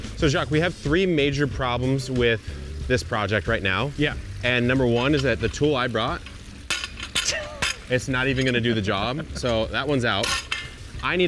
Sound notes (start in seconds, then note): 6.7 metal clinks; 7.3 laughs